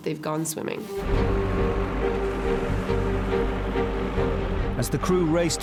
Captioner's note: tense music; engine rumbling